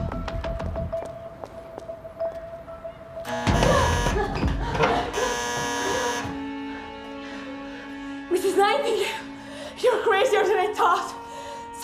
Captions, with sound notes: (doorbell buzzing) - Mrs. Nightingale, you're crazier than I thought.